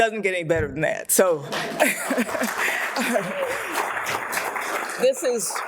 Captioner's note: audience applauds